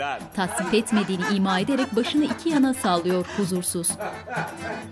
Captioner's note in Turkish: Gülme sesi